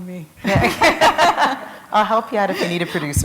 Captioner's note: laughter